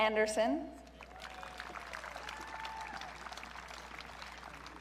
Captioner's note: audience cheering